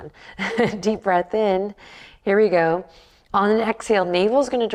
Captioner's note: chuckles